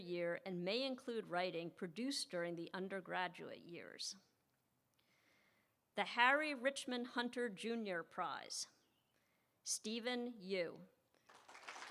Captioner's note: applause